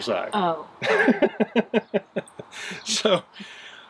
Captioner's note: laughs